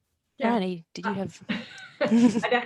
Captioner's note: laughs